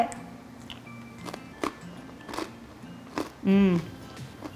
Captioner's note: crackers crunching